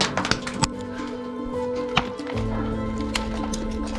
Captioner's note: rocks slamming